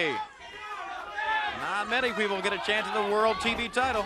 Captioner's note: crowd chatter